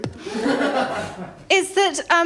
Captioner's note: laughter